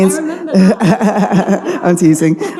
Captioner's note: audience laughing